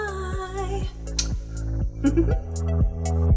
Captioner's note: laughs